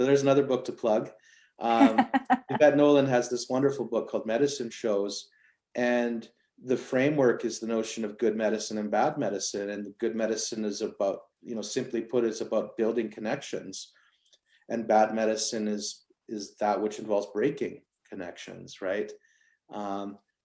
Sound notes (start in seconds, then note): 1.7 laughter